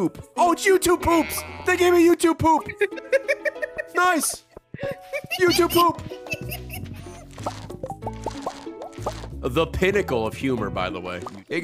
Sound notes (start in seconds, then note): 4.8 giggling